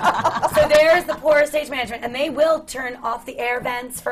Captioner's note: laughter from the panel